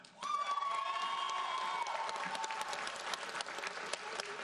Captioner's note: audience applauds